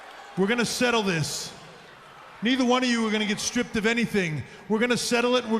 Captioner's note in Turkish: Alkış